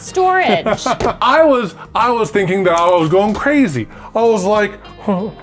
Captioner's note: laughs